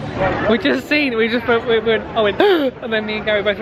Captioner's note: mimics gasp